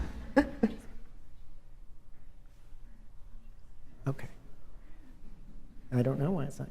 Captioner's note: laughter